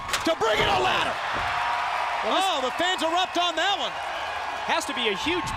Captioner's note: crowd cheering